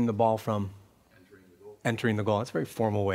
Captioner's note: voiceover